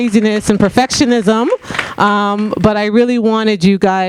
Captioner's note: audience clapping